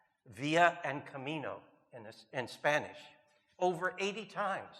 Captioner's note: speaking in Spanish